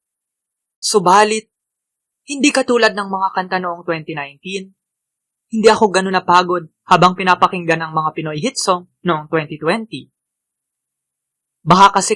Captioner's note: filipino